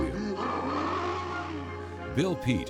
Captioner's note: howling